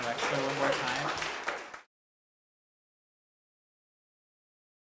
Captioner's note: applause